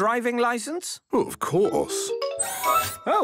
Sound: mechanical arm whirring

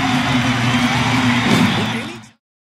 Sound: woosh

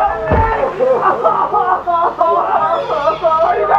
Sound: sobs

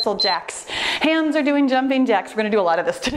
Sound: timer beeps

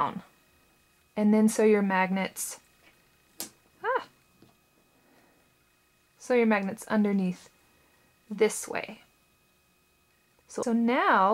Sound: click

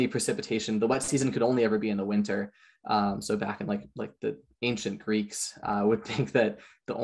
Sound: chuckles

